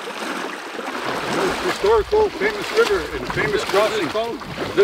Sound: none

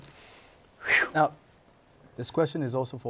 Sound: soft whistle

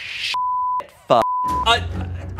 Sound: beep

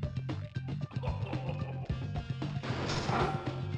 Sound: Venom laughs

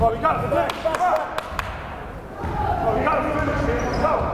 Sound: crowd cheering

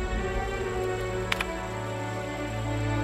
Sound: typing

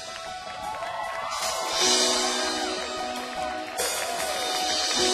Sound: audience cheers

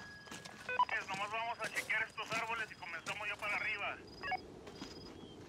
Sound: man speaks Spanish on radio

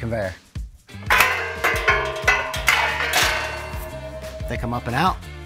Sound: guard clanks

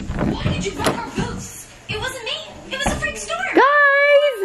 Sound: iPad playing cartoons

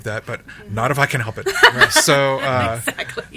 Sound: others laugh

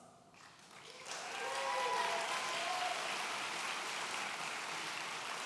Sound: audience cheering

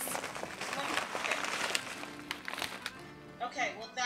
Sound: paper rustling

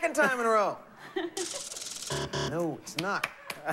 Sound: buzzer

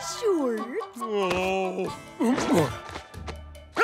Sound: groaning

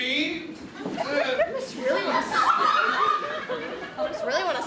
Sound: audience laughter

